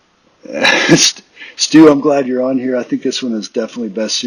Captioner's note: chuckles